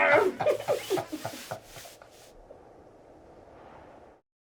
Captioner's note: both laughing